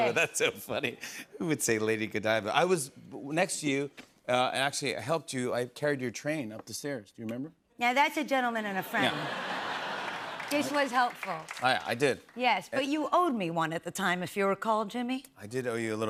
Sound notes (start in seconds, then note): 0.0 laughter; 8.8 laughter